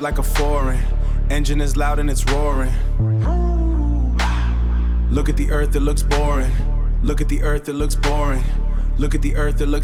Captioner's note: vroom